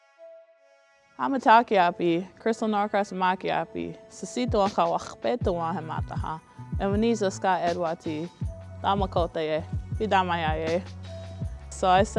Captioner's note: Speaking in Dakota